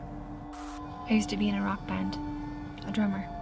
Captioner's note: static crackles